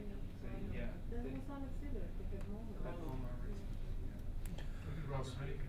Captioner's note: audience quietly speaking